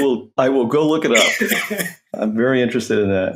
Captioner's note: laughs